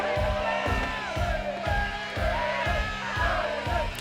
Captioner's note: chanting